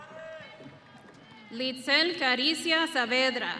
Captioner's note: audience cheering